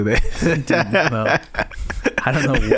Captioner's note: laughing